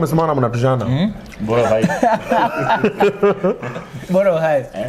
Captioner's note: laughter